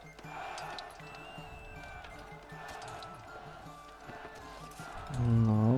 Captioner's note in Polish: Aplauz